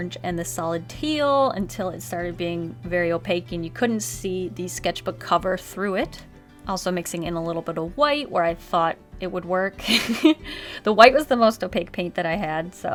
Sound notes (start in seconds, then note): 9.9 laughs